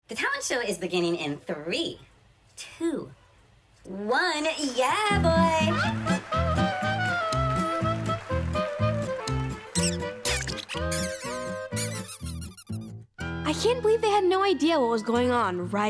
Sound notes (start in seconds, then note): 5.2 circus music; 9.7 mice squeaking